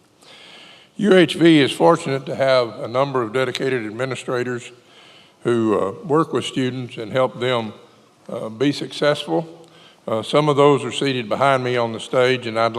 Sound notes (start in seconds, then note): none